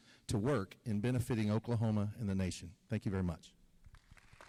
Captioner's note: applause